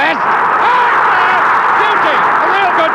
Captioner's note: crowd roaring